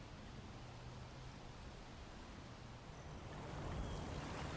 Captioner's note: birds chirp